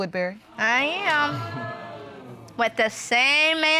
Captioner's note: audience exclaiming